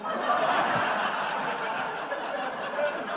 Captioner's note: laughter